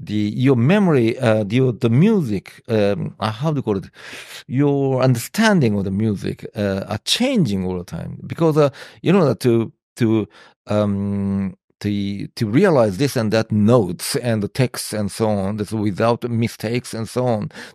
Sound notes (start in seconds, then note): none